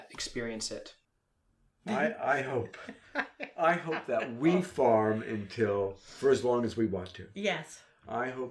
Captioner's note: laughs